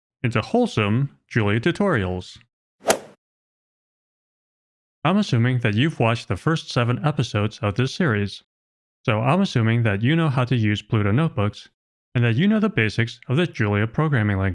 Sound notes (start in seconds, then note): 2.8 golf ball hit sound effect